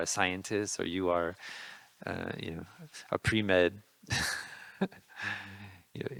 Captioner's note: laughing